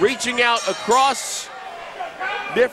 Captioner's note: bell rings